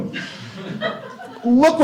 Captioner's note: laughter